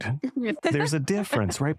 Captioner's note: laughter